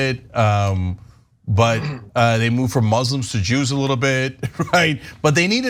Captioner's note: laugh